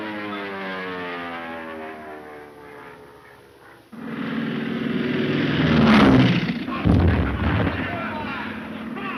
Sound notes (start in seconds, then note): 4.2 airplane engine roaring